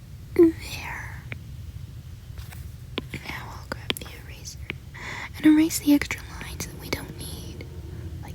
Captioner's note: strange hissing sound